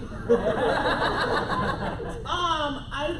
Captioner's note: laughter